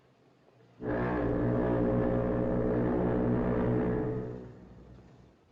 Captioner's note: foghorn Blows